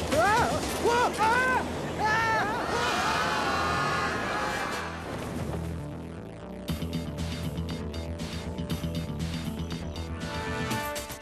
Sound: screaming

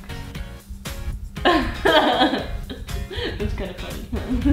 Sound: laughing

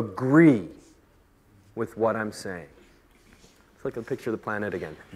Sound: voice lowers

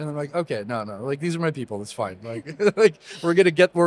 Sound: laughs

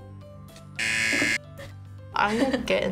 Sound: buzzer rings

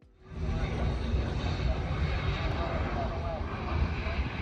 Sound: plane engine revving

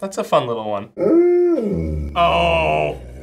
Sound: dog howls

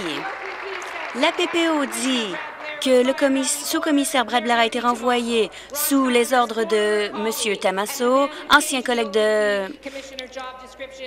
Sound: some Applause

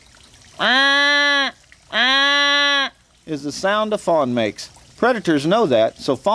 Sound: wildlife call

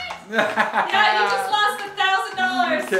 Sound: laughs

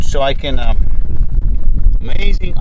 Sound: wind blows

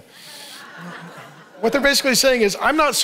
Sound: congregation laughing

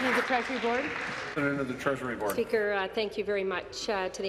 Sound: applause

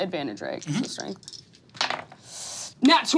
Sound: dice clattering

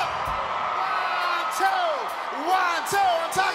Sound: crowd cheering

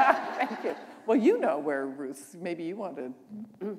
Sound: laughter

